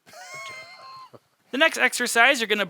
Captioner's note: chuckles